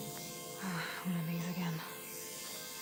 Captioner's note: sigh